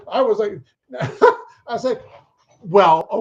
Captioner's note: chuckles